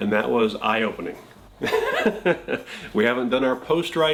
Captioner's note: laughs